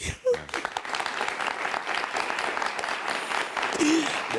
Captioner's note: audience claps